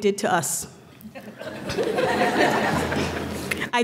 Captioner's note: laughter